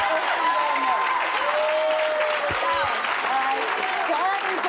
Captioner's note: audience cheering